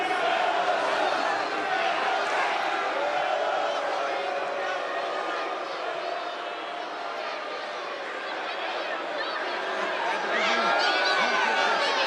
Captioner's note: crowd chants "melo sucks"